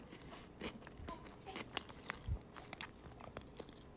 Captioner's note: chewing loudly